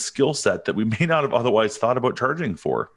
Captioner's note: chuckles